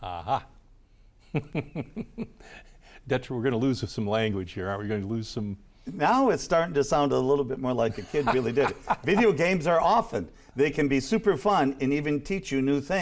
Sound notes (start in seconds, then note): 0.6 laughs; 7.8 laughs